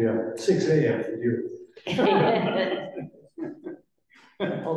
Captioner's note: laughter